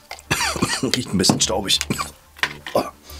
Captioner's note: coughing